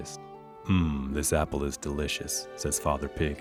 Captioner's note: sighing